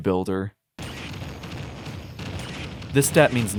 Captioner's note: bumping and damage sounds